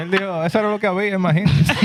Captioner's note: speaking Spanish; laughter